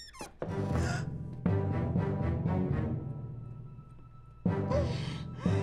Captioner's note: Angela gasping; dramatic orchestral music